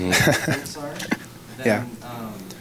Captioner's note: laughs